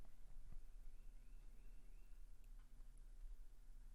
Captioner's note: bird chirping